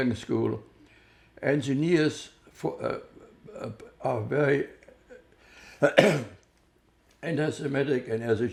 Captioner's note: clears throat